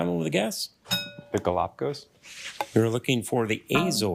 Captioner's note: bell dings